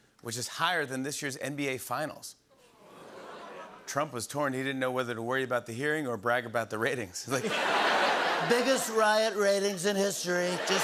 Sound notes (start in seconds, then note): 2.7 audience "Oohs"; 7.3 laughter